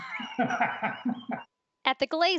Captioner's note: laughter